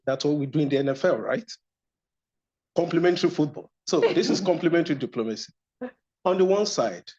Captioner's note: laughter